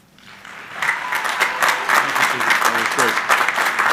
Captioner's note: crowd applauding